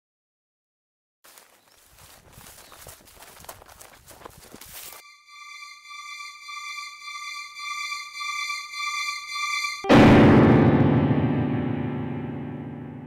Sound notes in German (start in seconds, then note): 5.0 Schrille hohe Töne; 9.8 Donnergrollen